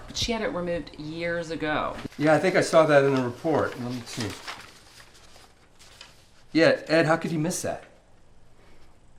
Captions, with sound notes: but she had it removed years ago. - Yeah, I think I saw that in the report. Let's see. (papers rustling) Yeah, Ed, how could you miss that?